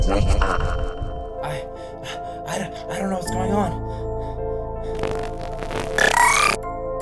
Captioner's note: gasping for air